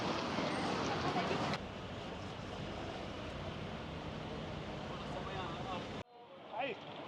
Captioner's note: indistinct chatter